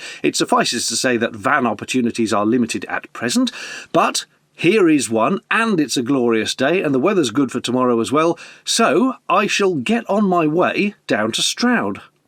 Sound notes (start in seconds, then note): none